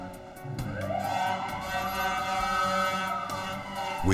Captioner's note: sirens